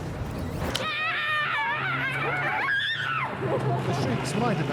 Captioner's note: Kate screams